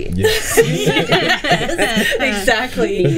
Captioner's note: group laughing